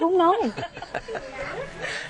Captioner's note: laughing